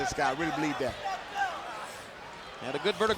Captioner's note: fans cheering